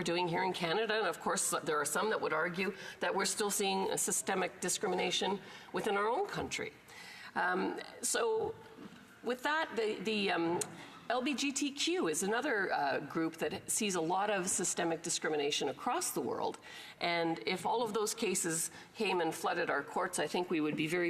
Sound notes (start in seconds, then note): none